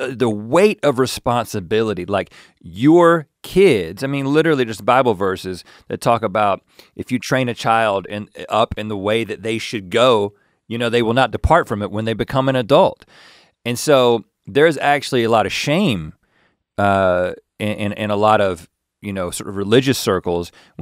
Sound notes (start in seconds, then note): none